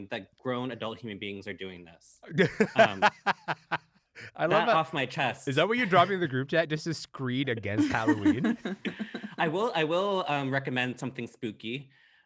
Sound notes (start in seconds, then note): 2.3 laughs